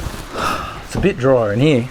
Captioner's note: sighs